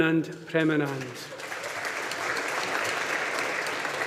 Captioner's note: audience applauding